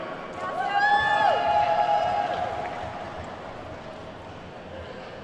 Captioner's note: attendees whooping and clapping